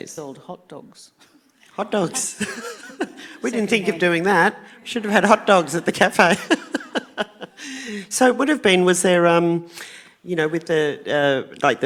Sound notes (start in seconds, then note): 6.6 laughing